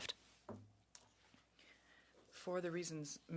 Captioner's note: speaking French